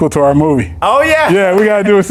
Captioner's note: claps